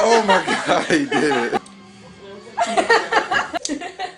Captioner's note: laughter